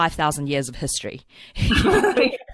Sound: laughs

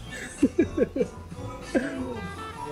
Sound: chuckles

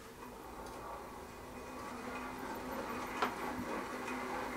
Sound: low whirring

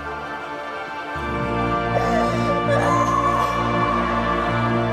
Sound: cassie screams

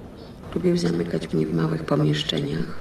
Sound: speaking polish

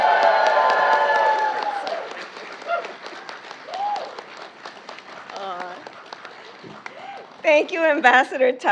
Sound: applause

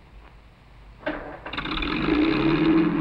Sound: car starting

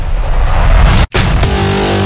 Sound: explosion; dubstep

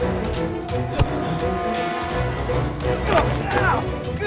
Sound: dramatic music; grunting

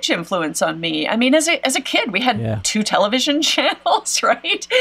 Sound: laughs

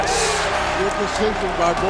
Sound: crowd cheering

